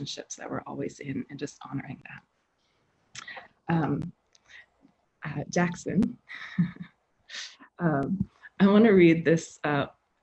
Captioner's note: laughing